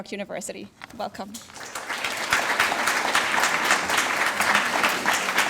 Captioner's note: audience applauds